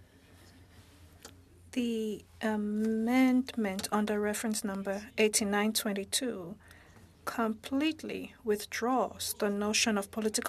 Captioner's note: speaking French